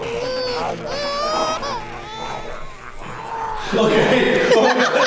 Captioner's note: laughing; baby crying; laughing